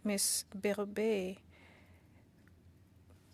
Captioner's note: speaking French